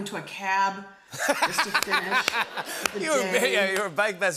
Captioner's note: laughter